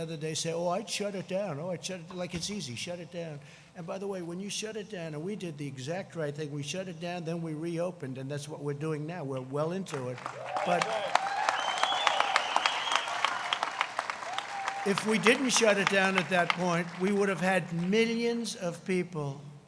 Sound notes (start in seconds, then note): 13.9 crowd cheering; 15.9 applause